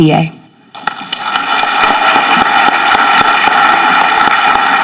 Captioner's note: audience clapping